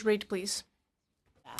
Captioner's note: speaking in French